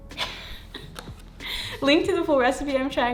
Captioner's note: laughing